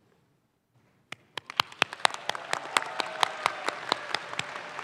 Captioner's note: audience claps